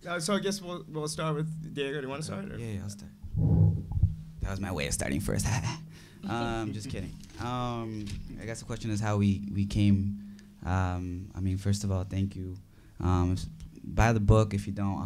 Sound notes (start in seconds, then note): 6.2 chuckles